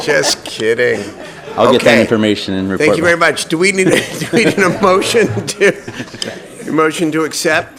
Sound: laughter

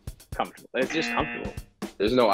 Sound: buzzer

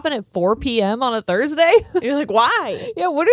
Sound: chuckles

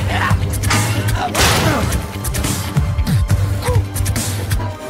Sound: metal clangs

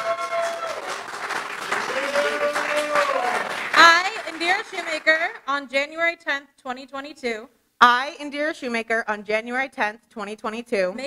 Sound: applause

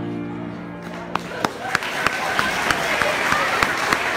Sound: applause

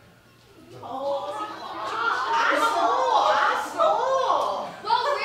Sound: make Asian racist noises

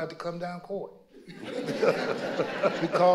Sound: audience laughing

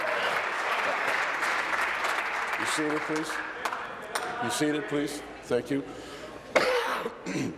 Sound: applause

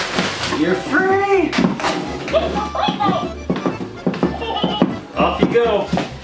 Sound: Doll talks and laughs

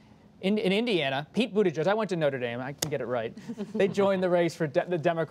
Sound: laughter

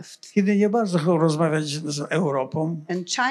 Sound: foreign language

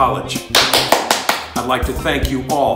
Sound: claps

